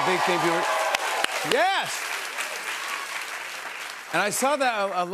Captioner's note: cheers and applause